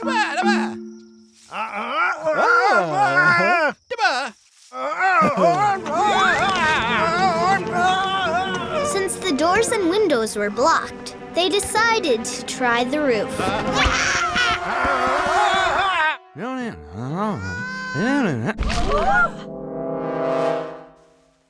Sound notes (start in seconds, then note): 4.7 old man moaning; 9.1 voiceover; 13.7 screaming; 19.0 crashing; 19.0 crowd gasps